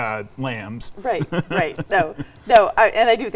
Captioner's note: chuckling